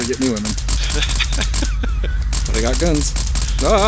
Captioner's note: laughs